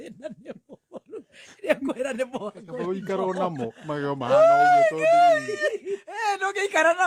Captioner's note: laughter